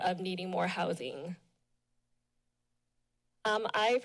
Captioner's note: pause